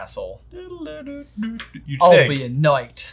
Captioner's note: hums